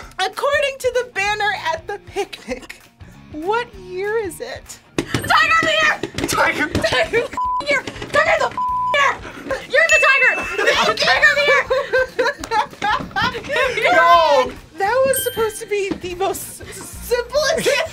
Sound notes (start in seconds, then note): 6.6 laughs; 9.8 bell rings; 10.2 both laugh